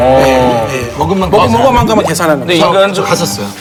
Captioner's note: gulping